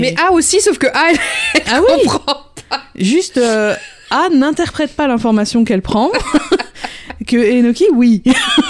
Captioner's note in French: rire; rires